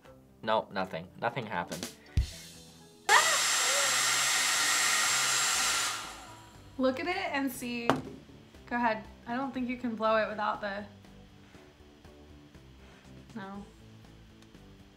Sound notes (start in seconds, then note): 2.1 rim shot; 3.1 dryer whirs